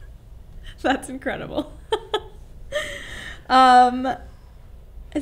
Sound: laughs

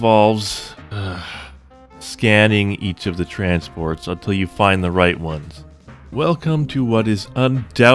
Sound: sigh

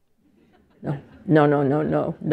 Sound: laughter

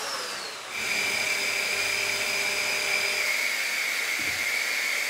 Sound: saw engine whirring

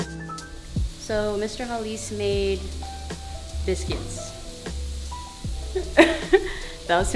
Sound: laughs

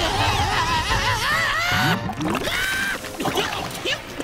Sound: screaming

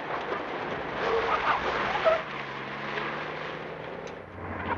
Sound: tires squealing

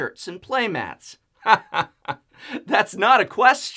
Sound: laughing

